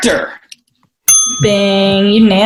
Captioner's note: ding